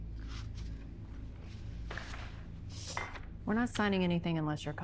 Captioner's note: papers rustling